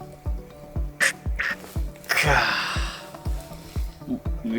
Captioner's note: laughs